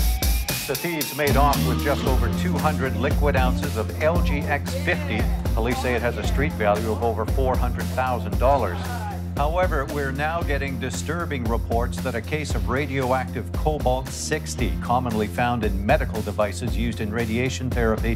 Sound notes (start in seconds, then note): none